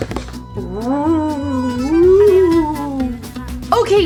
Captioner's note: ghostly sounds